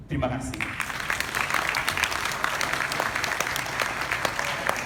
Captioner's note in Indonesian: Tepuk Tangan